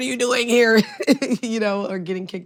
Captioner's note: laughs